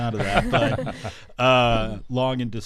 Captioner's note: laughing